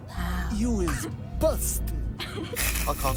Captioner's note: snickering